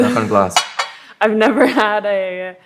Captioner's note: knocks on glass